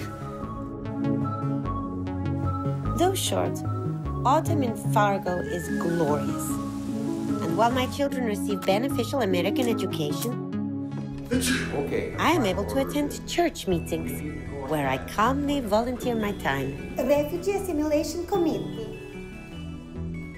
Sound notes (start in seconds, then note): 11.3 sneezes